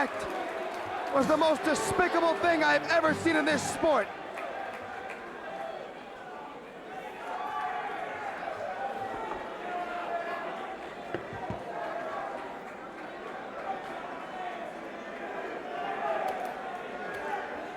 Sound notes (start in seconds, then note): 6.0 crowd chatter